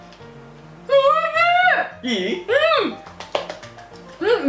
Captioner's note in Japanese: 拍手